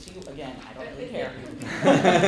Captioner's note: laughter